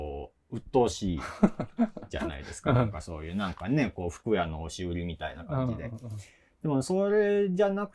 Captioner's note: laugh